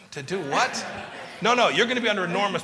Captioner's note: laughter